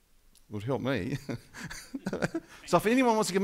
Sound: laughing

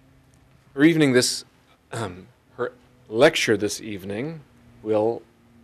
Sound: clear throat

